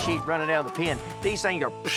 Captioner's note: fast sound